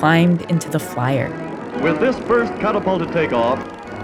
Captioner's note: soundbite of archived recording